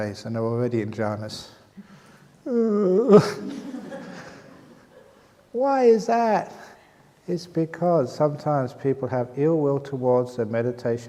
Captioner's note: laughter